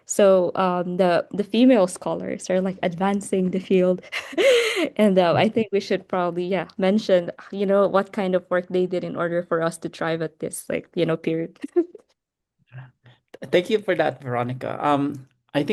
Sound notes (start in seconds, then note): 12.6 laughs